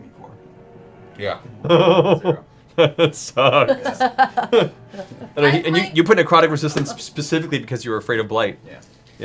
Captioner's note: laughing